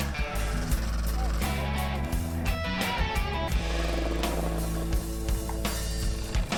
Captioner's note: boat engine whirring; upbeat music